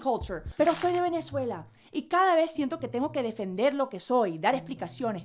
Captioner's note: speaks in foreign language